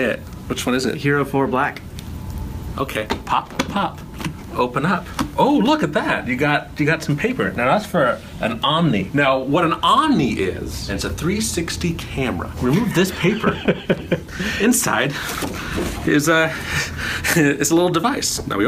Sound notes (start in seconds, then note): 12.6 laughing